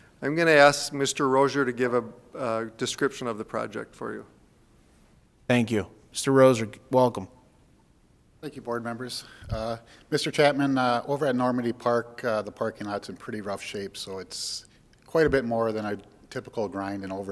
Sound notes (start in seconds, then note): none